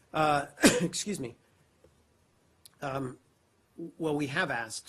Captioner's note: coughs